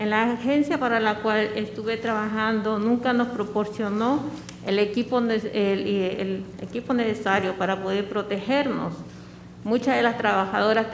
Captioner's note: speaking spanish